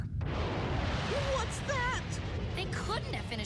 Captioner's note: rumbling